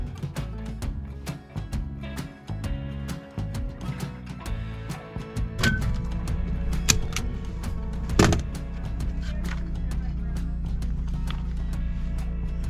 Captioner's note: metal clanking; upbeat music